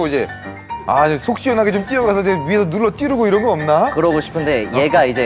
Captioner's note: suffoating